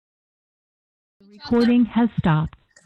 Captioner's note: automated voice